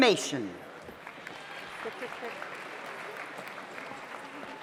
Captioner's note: audience applauds